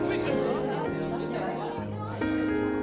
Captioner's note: overlapping chatter